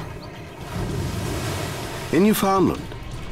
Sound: water splashing

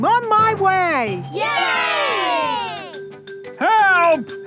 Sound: crowd cheering

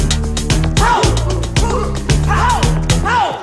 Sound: pow

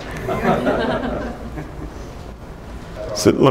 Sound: laughing

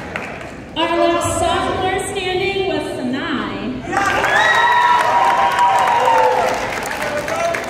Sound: cheering

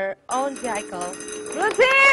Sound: timer sounds

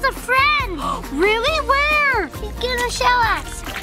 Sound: mom gasping

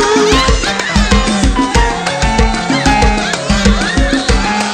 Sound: chattering

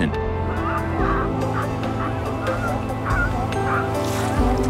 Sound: sea lion sounds

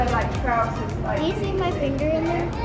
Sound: people talking

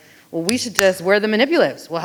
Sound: hands clapping

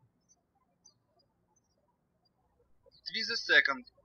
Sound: birds chirping

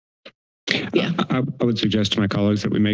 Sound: mic thumps

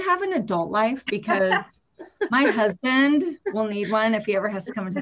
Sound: laughs

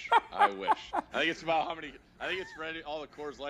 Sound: laughs

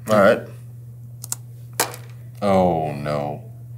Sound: keyboard clicking

